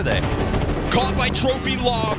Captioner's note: gun firing